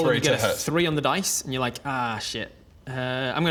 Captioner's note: none